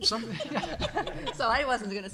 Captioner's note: group laughter